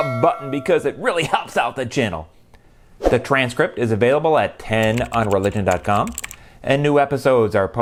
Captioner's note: bell ringing; keyboard typing